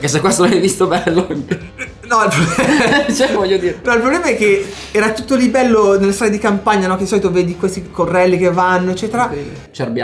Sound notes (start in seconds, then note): 0.9 laughters